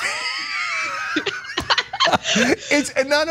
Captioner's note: laugh